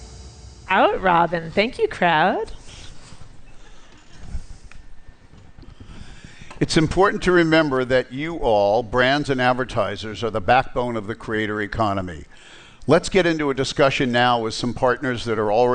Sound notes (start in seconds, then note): 3.4 laughter